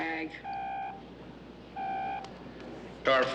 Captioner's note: phone ringing